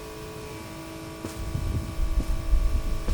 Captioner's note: footsteps